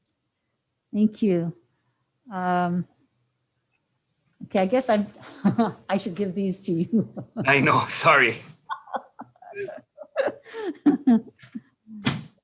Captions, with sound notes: Thank you. I guess I should give these to you. (laughs) - Sorry.